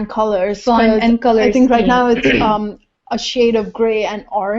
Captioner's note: cough